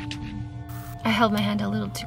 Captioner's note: static crackles